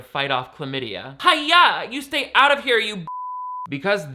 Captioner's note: beep